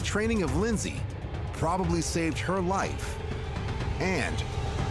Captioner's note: none